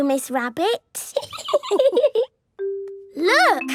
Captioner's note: laughing